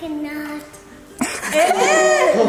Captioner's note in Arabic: الجميع يضحكون